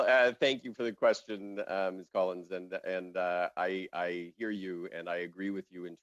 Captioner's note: laughing